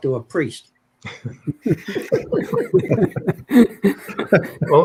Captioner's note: laughter